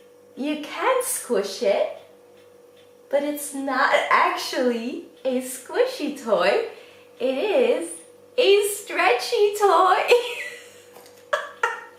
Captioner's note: laughs